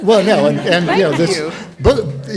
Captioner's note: audience laughs